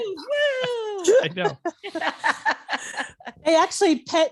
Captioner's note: laughing